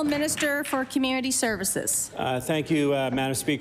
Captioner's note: applause